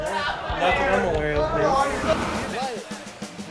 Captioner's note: teens chattering; image whooshes